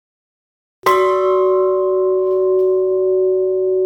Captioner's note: bell ringing